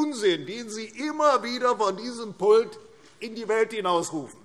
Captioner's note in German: none